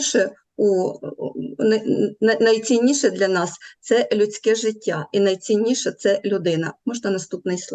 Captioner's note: foreign Language